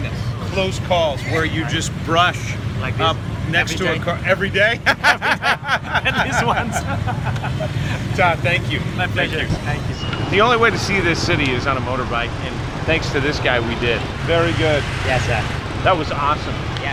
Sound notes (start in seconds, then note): 4.7 laughing